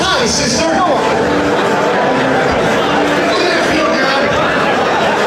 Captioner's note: audience talking